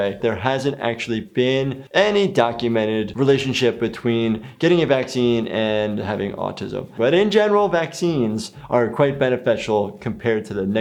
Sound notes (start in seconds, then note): none